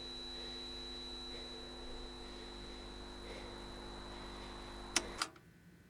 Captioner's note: high-pitched tone ringing; viewer breathing; button clicks